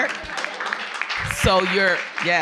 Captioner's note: audience clapping